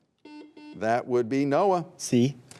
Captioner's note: buzzer buzzing